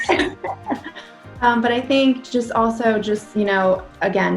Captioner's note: chuckles